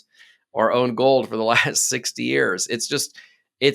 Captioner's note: laughing